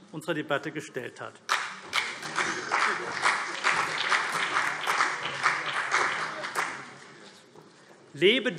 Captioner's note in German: Beifall CDU und vereinzelt BÜNDNIS 90/DIE GRÜNEN